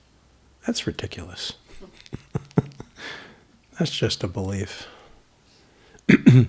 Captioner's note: laughs